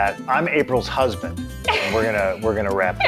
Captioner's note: laugh